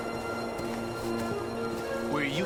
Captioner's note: footsteps